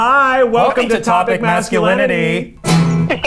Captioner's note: in Unison